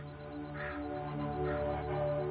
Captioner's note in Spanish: Bip